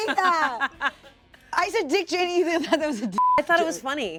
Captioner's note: beep